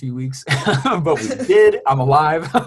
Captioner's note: laughs